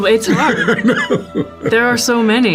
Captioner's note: Harlan chuckles